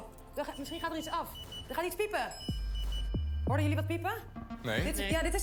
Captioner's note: beeps